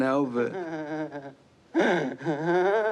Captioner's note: chuckles